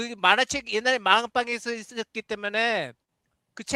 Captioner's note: non-english speech